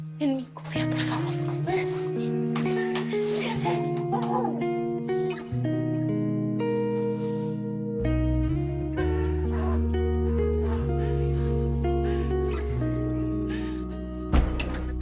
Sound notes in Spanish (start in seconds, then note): 2.7 Sollozos